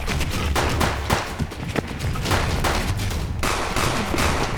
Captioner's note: tense music; gunshots pop